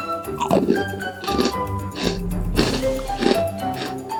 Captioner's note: crunch crunch crunch